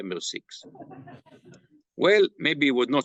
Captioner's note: laughter